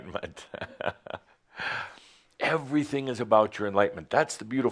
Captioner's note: Adamus chuckles